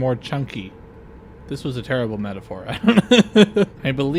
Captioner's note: laughter